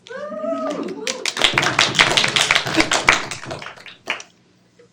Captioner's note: students clapping